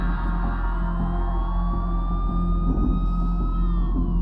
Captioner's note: distant sirens